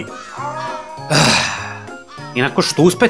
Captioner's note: sigh